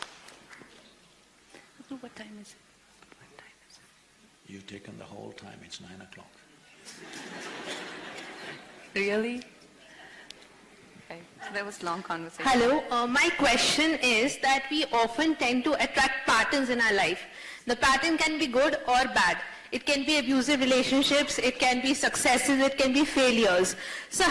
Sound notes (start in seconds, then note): 3.2 Whispers to Sadhguru; 6.8 laughter; 6.9 Whispers to Kangana